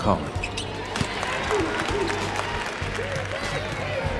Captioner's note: applause